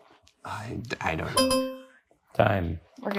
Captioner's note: bell clangs